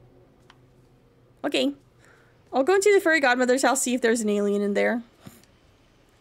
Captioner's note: snorts